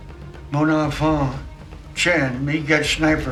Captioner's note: speaks in foreign language